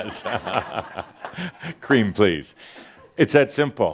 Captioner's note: laughter